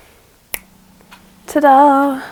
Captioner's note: snap